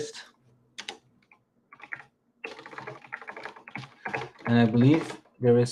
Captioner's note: keyboard clacking